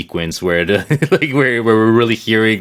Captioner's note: he chuckles